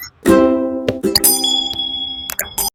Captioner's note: computer chimes